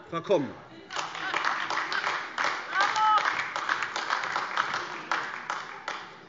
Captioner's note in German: Beifall AfD